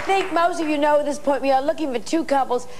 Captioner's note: clapping